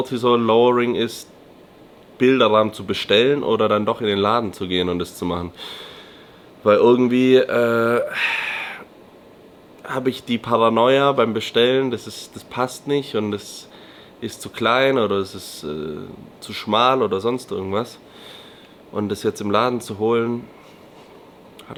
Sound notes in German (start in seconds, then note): 7.5 seufzt; 8.5 japst